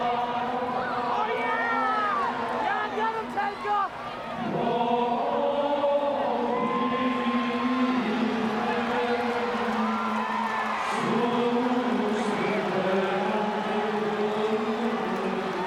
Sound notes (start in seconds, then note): 0.0 group chanting; 4.7 group chanting